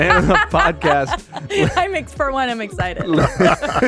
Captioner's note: laughs